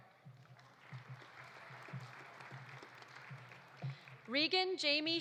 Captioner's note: audience applauding